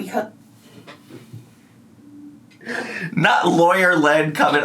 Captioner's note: laughs